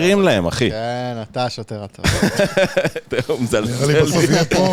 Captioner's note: laugh